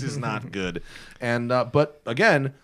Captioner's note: laughter